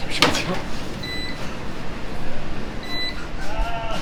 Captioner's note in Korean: 어디선가 삐 삐 소리 남